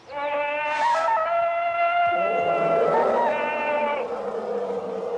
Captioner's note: Tarzan bellowing loudly